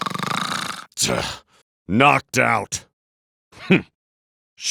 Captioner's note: scoff